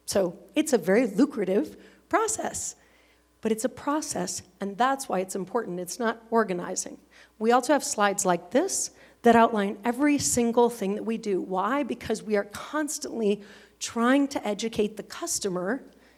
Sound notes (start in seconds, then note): none